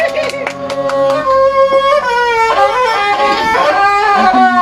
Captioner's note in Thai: ปรบมือ